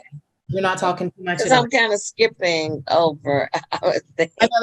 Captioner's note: laughs